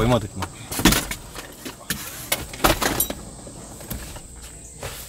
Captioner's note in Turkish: Çocuk koltuğu takılırken çıkan sesler